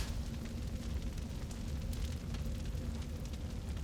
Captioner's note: fire crackling